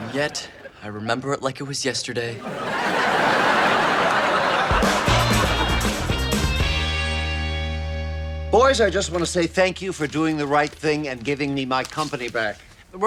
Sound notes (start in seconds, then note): 2.3 audience laughs; 4.3 upbeat music